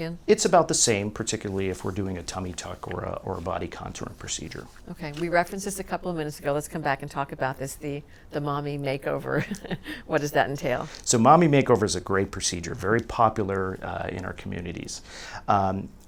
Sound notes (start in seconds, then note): 9.4 laughs